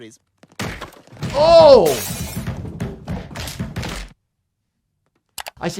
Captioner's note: glass crashing and Stewie thudding